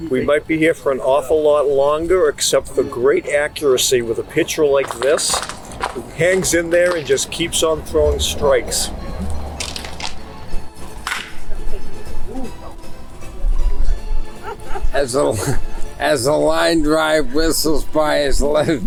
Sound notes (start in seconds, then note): 10.8 baseball bat crack